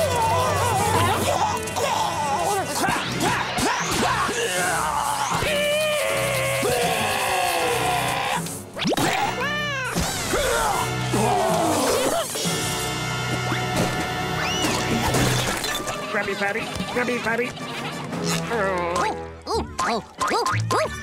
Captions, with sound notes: [coughing] Meow. Krabby Patty. Krabby Patty. Ooh, ooh, ooh, ooh, ooh, ooh, ooh.